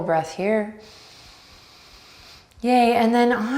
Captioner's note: breathing deeply